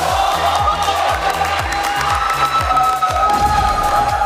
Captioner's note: clapping